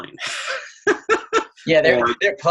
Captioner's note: laughing